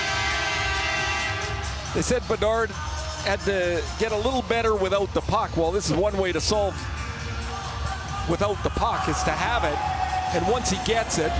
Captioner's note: cheering and Applause